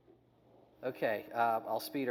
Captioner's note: video noise